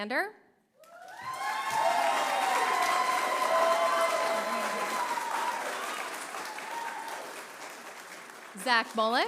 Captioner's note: cheering; applause